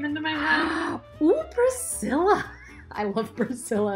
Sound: gasps

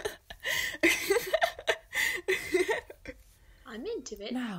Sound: Ara laughs

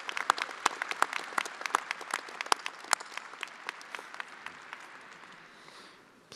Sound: attendees applauding

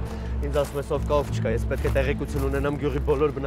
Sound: Gevork speaking in foreign language; Zhozef speaking in foreign language

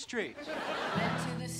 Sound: audience laughing

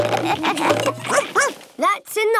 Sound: all laugh; barks

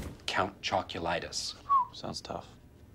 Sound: whistles

